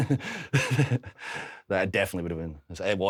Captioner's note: Drew and Steve chuckle